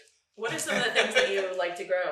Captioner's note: laughing